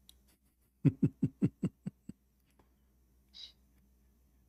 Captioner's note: Ketawa